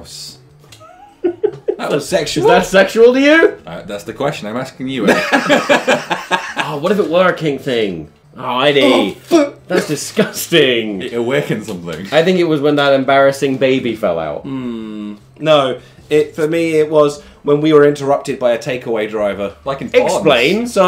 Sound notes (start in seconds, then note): 0.7 giggling; 5.1 everyone laughing